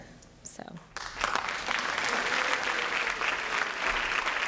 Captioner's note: applause